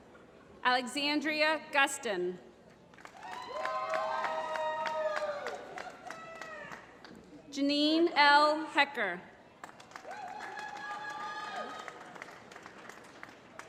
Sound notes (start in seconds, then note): 2.9 applause; 9.6 applause